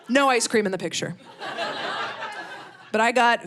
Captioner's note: audience laughing